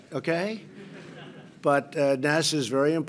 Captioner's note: laughter